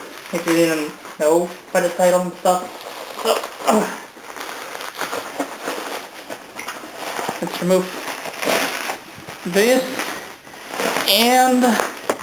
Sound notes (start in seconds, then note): 2.7 struggles with bubble wrap